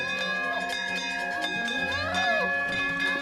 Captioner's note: muffled Yelling